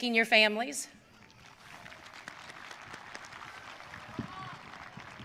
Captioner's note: audience applauding